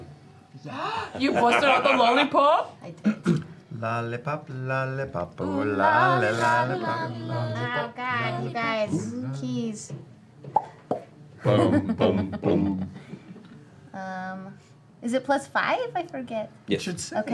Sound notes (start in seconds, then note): 4.2 sings; 10.5 cheek popping; 12.5 singing deeply